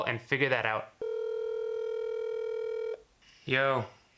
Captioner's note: line trilling